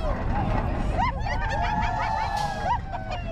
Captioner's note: laughter